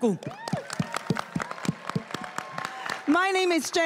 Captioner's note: cheering and applauding